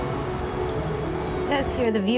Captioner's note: none